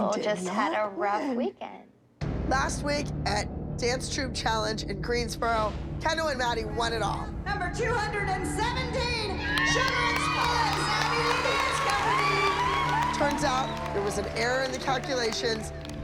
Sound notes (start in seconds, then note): 11.6 cheering and applause